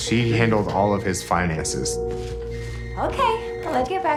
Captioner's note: telephone rings